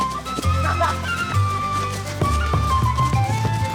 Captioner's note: laughing